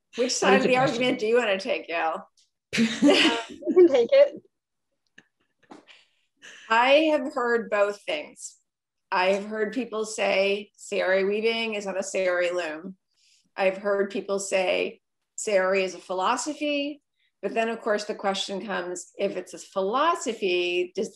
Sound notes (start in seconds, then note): 3.0 laughing